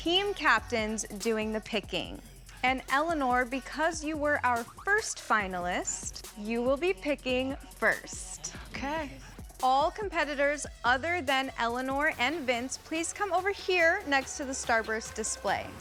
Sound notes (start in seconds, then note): none